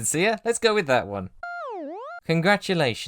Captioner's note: smw_goal_iris-out.wav